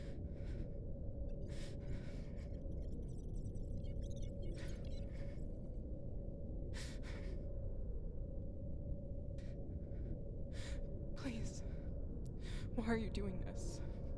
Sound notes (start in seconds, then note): 2.6 rapid digital beeping; 6.7 woman breathing heavily